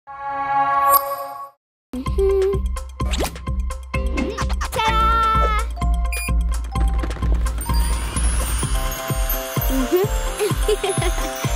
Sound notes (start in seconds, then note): 1.7 humming; 6.1 beeping; 10.3 giggling